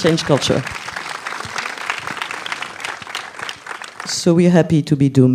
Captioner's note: applause